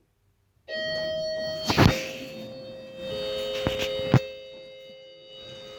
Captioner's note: door Chimes